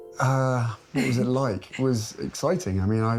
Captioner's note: chuckling